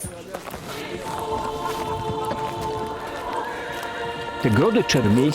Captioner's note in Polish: odgłosy średniowiecznego miasta